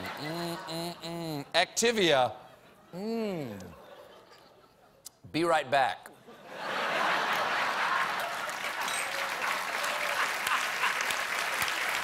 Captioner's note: applause; laughter